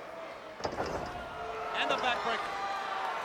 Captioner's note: body thuds